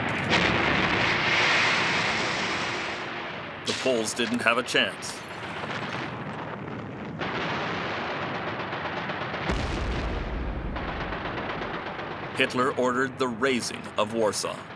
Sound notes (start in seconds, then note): 0.1 bombs explode; 7.9 guns fire; 9.6 cannon fires